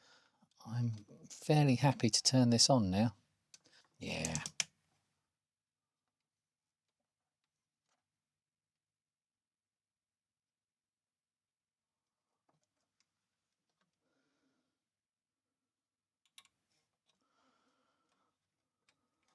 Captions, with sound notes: I'm fairly happy to turn this on now. Yeah. (Blank Audio)